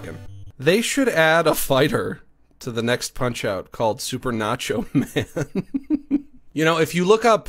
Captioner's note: laughs